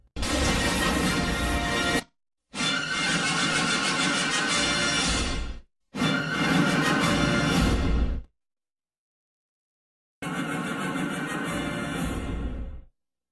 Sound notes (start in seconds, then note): 0.2 lightning crashing down as rousing fanfare plays; 2.5 rousing fanfares resuming; 5.8 rousing fanfares continuing; 8.5 silence; 10.0 rousing fanfares resuming